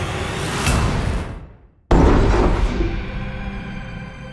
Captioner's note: loud bang